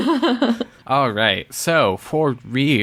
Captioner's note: laughs